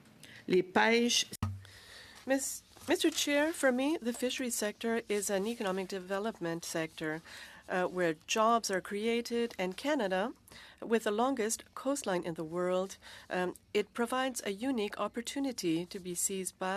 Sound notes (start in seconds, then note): 2.6 speaking French